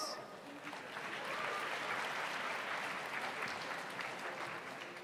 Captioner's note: audience applauds